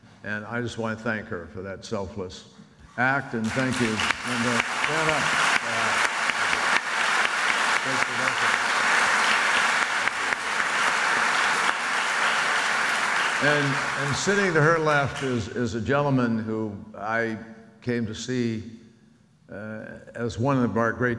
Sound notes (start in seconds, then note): 5.8 audience applauds; 10.3 audience applauds